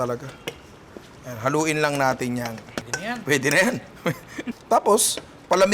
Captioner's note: chuckles